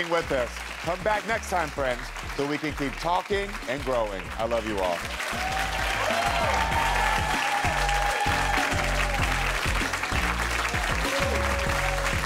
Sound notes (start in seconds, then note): 5.1 upbeat music; 5.1 audience cheering